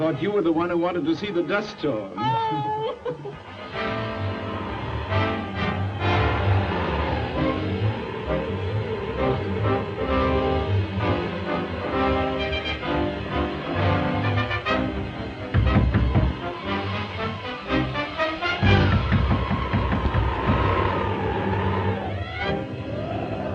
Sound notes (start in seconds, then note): 4.2 dramatic orchestral music; 16.3 hand knocking on door; 18.9 dramatic orchestral music continues